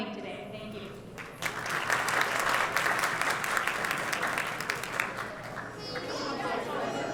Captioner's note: applause